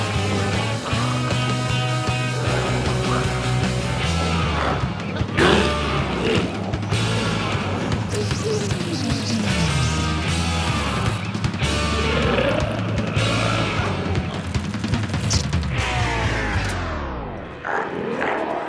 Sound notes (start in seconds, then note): 3.3 energetic music continues; 3.3 glowzies growling; 12.8 energetic music continues; 14.3 reel whirs